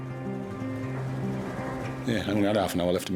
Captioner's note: energetic music; boat droning